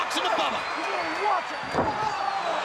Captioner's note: crowd cheering; crowd chatter